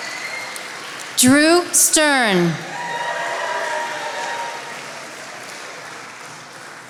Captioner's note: attendees applauding